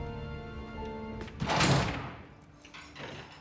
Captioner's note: door slams; lock clicks